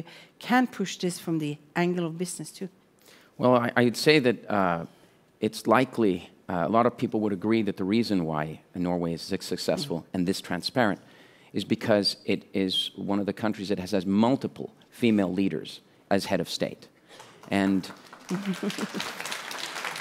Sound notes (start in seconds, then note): 17.2 applause